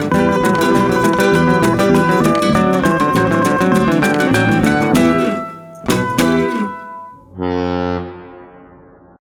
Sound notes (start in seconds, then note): 7.6 carnival horn sounds